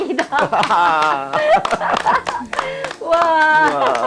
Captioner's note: both laughing